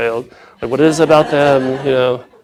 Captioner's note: laughing